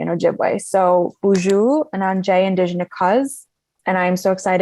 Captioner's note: speaking in Ojibwe